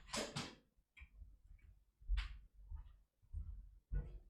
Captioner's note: door opening; footsteps